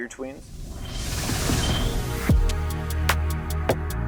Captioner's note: logo whooshing